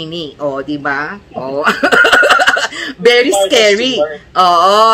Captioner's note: laughter